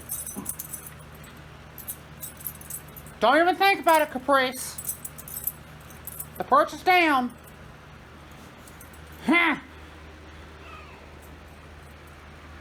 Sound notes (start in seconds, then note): 8.3 Caprice scoffs; 10.6 Caprice meows angrily